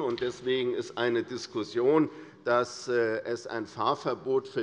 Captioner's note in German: none